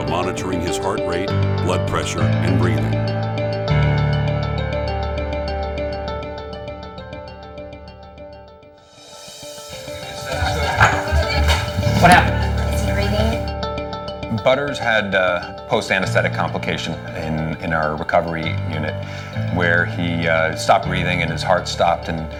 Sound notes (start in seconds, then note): 3.7 slow guitar music; 9.6 people clamoring